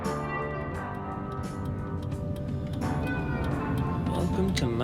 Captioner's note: signal ticking